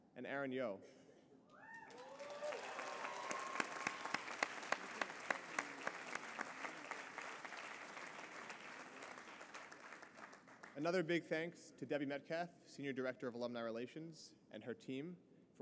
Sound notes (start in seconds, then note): 2.3 applause